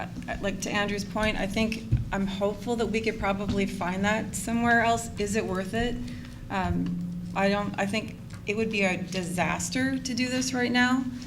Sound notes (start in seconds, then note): none